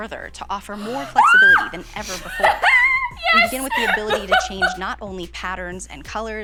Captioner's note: screams about color wheel